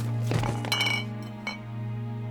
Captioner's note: bottle clinking; Sammy thuds; gentle music